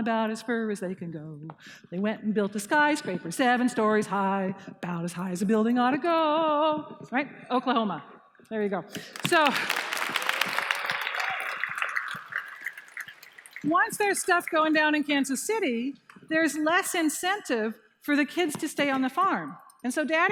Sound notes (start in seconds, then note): 8.9 applause